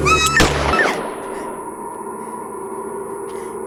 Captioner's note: screams; gunshot